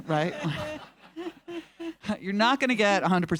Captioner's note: audience laughing